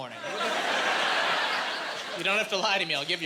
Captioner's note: laughing